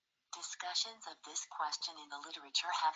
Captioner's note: automated Voice